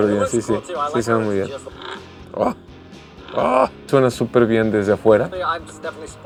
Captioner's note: exhaust pipe sound